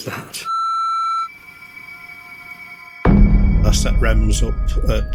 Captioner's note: loud beeping